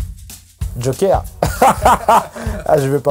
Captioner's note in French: Rires